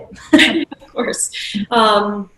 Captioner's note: laughing